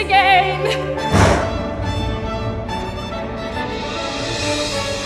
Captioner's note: thunder rumbles; dramatic music